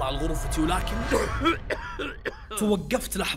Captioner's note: cough in the dark